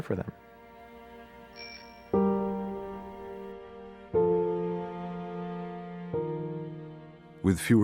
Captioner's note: bell dings